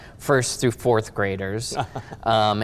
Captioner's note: chuckling